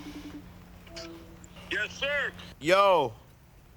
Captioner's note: FaceTime ringing